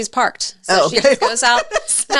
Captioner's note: laughs